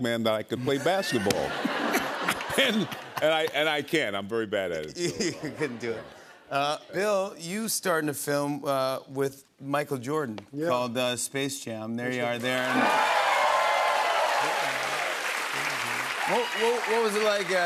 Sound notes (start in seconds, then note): 12.4 cheers and applause